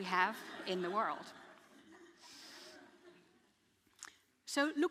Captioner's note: audience laughing